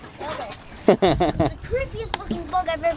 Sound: laughing

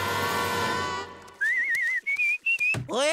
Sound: screaming; whistling

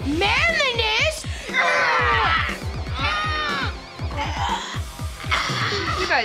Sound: grunting

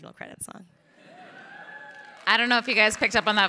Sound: crowd cheering

